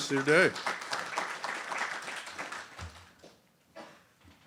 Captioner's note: applause